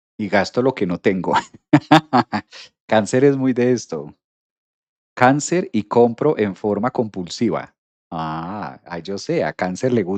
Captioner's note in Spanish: risas